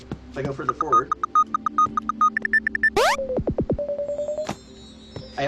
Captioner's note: switch beeping